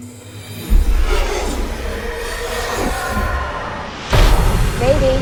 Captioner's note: dramatic swelling effect; gunshot